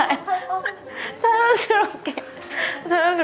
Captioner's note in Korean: 웃음